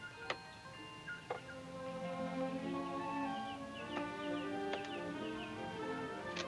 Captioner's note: birds chirping; gentle music